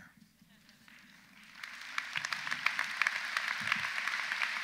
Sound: audience applauds

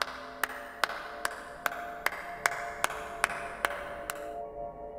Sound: aplausos

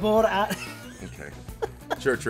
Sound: laugh

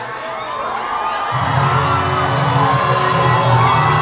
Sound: cheering

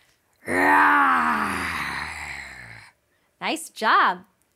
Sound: roars

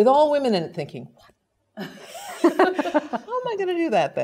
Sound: laugh

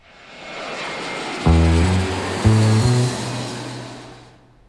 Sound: plane engine roaring

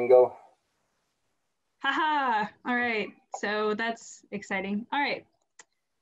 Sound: laugh

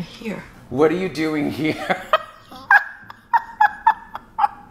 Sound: laughs

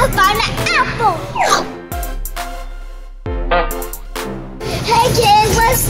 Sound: slide whistling and horn honking

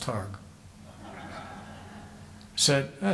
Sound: audience laughing

